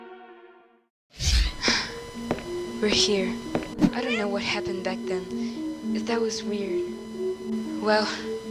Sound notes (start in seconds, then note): 1.3 phew